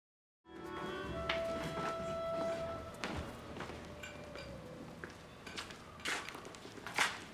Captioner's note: upbeat jazzy music; footsteps shuffle